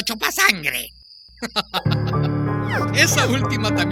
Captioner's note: laughs